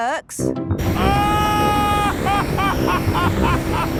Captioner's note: excited screaming, laughing